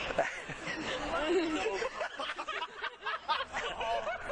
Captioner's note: laughing